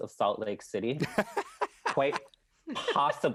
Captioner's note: laughing